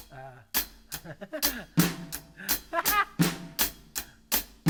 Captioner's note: laughing; playing drums